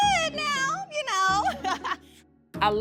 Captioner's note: laughs